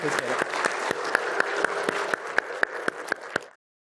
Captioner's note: applause